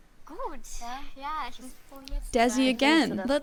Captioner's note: show contestant speaking in German